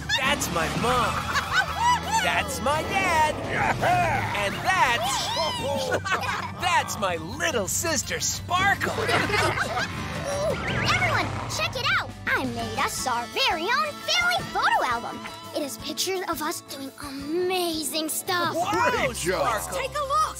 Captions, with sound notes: That's my mom. That's my dad. And that's... [chuckling] That's my little sister Sparkle. [laughing] Oh, everyone check it out. I made us our very own family photo album. It is pictures of us doing amazing stuff. -Wow Sparkle! -Let's take a look.